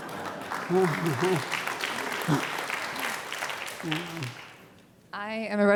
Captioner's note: audience laughing, clapping